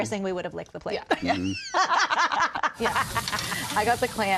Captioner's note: laughter